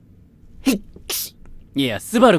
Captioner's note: sneezes cutely